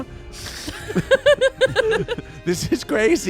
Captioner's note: everyone laughs